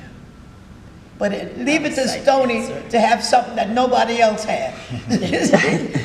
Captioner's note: chuckling